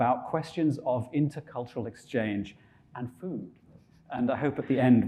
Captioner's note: chuckling